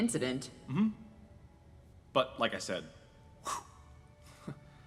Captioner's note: whooshing noise; chuckle